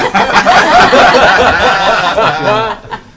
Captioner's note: laughter